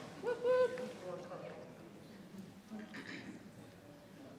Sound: attendees chattering

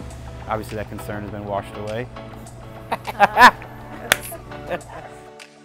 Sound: laughs

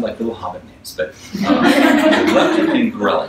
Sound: audience laughs

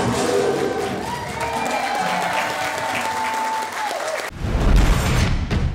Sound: crowd cheering and applauding; dramatic high intensity music

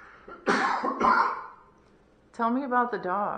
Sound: coughing

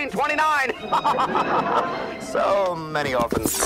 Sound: laughs

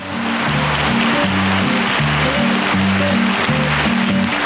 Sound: audience applauding

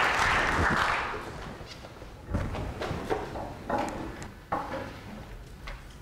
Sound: rustling of the tuning taking their seats

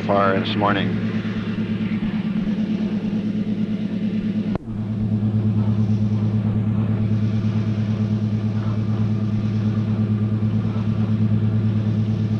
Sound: sound of the train moving

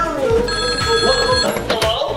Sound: phone ringing

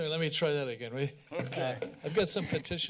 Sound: laughs

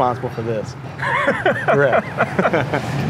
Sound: both laugh

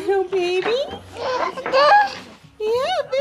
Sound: baby babble

